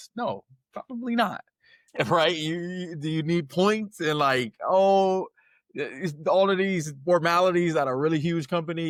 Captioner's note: laughs